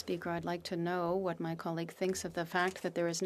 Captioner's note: speaking French